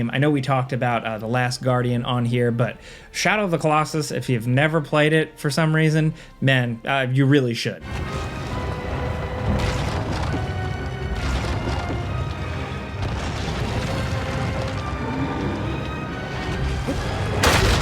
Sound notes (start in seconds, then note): 7.8 intense dramatic music; 8.1 footsteps pounding; 15.0 monster roars; 17.3 weapon crashing